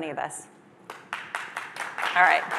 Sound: applause

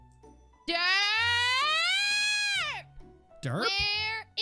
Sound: Tina screams "dirt"

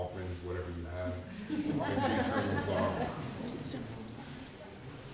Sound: audience laughing

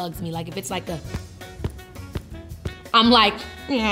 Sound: thumps

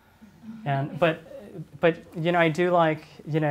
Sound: audience chuckles

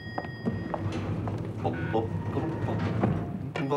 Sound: humming

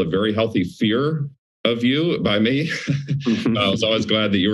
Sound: laughs

